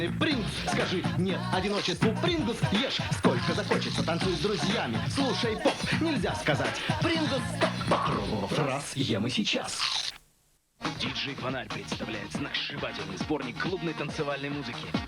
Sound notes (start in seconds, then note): 9.7 crunch